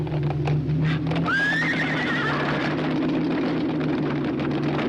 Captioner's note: horses neighing